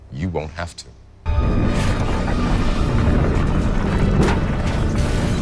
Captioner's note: air whooshing